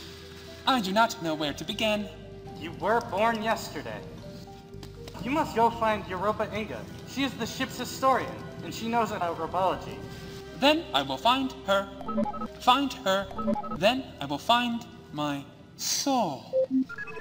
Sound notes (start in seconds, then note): 11.9 chirps; 13.3 beeps